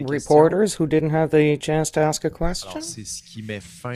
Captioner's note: speaking FRENCH